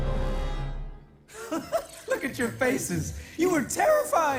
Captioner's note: laughs